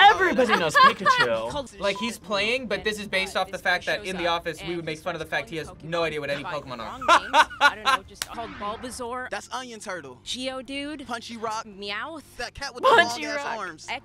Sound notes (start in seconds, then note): 0.0 laughs; 6.8 laughs; 13.5 laughs